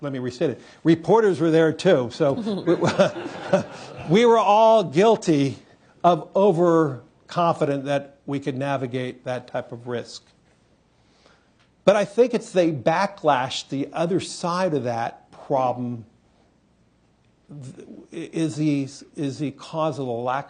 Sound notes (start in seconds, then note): 2.3 laughter